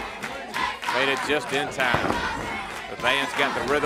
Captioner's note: crowd cheering